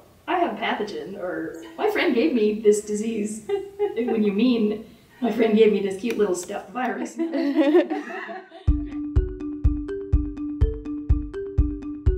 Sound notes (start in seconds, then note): 7.1 laughter; 8.3 instrumental music